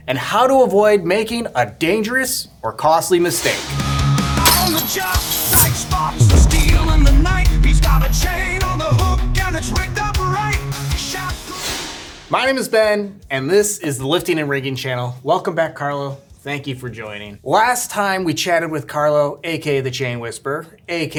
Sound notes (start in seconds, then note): 3.8 upbeat rock music; 4.4 chains clanging